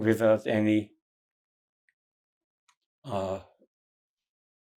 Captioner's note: pauses 6 seconds